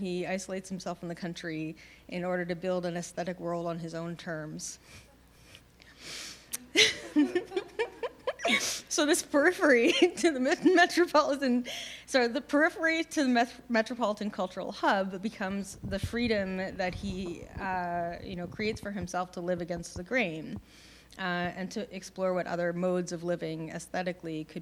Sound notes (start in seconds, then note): 6.7 laughter